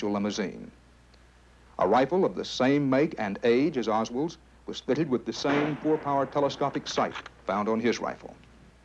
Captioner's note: bang